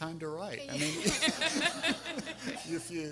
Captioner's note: everyone laughing